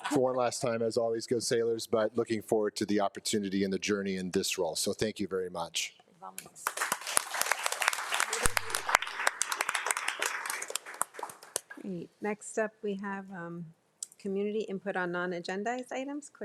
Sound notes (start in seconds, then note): 6.6 board of trustees and attendees applauding